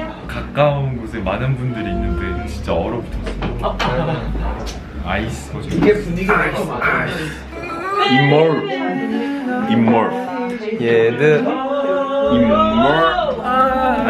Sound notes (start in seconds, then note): 6.7 argh